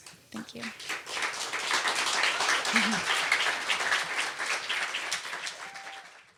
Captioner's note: crowd; applauds